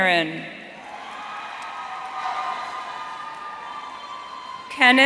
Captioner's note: audience cheering